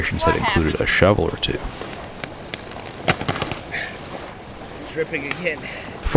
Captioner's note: tent ripping